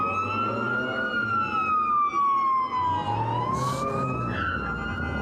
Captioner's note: siren wails